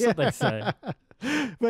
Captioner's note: laughing